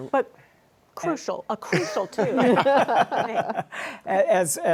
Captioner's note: laughter